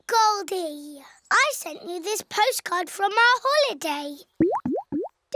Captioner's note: none